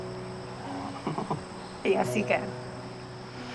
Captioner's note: Adam laughs